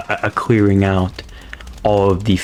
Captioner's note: inhales Oxygen